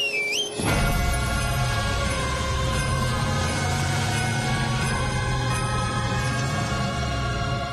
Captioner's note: whistles